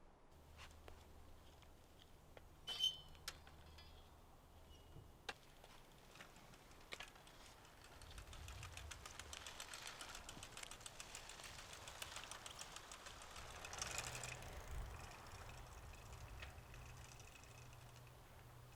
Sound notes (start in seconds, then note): 0.2 footsteps pattering; 2.3 kickstand creaks; 5.1 bike rattling